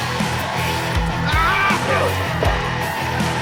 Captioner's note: Tecolote screams in pain from being stepped on